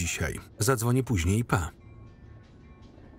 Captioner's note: tram bell ringing